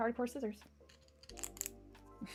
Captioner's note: tin snip's sound